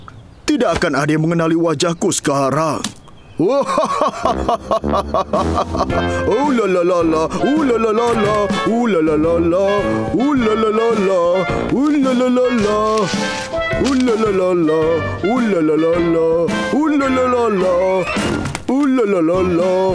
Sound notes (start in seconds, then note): 3.3 laughs evilly